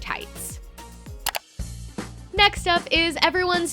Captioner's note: clicking